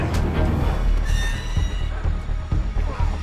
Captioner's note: metal creaks